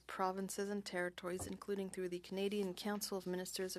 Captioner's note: speaking French